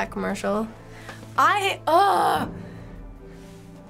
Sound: groans

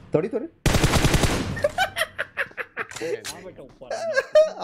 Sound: giggles

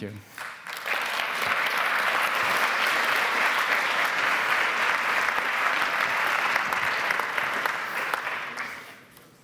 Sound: applause

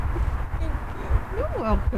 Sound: crying

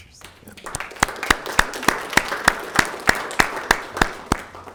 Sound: group clapping

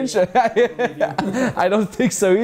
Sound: laughing

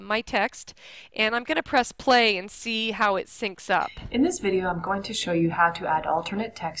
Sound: video audio playing

